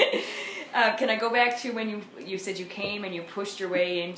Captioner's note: laughs